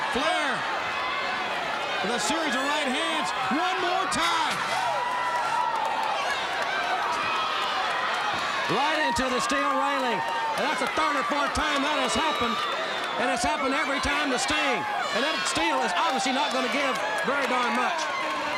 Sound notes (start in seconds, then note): 4.6 Sting thudding into railing; 4.6 crowd cheering